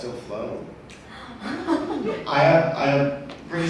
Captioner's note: audience laughs